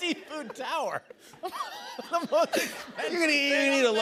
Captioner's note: laughs